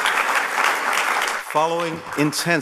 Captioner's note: applause